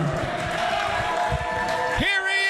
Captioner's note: crowd cheers